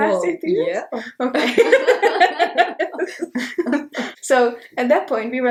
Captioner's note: both laugh